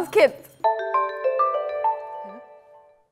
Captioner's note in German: Klingelton